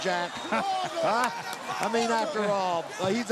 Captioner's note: laughs